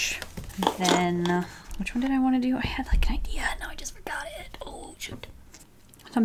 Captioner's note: whispers